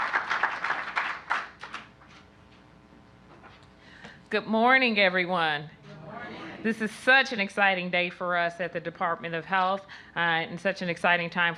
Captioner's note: applause